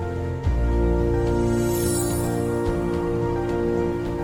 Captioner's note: high-pitch ringing